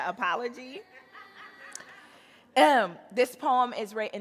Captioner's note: audience laughing